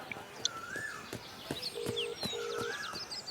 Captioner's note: mobile ringing